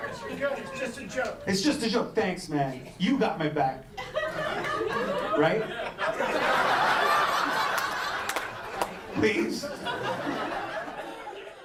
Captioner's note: laughter